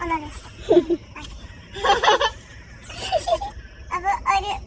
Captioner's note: laughing